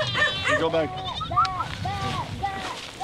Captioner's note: dogs bark; goats bleat